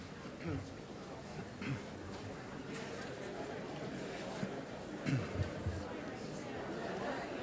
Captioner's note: collective chatter